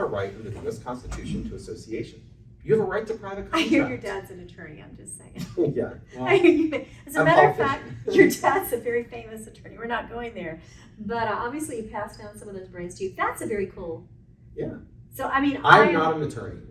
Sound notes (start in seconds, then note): 6.1 chuckles